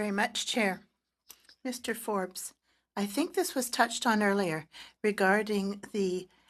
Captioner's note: speaking French